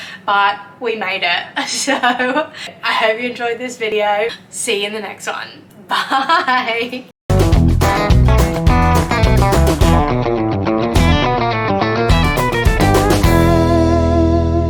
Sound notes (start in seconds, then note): 1.7 laughs; 5.9 laughs